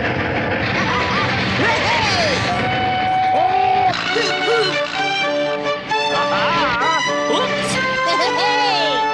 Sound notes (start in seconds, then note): 0.8 Toad laughs; 3.1 engine Driver yells